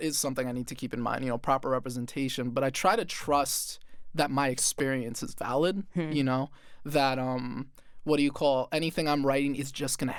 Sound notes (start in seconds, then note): none